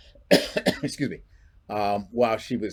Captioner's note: clears throat